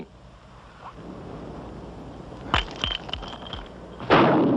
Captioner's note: blast